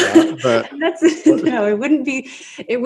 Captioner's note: laughs